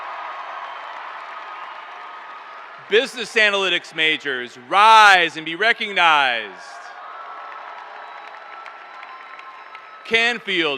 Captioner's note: cheers and applause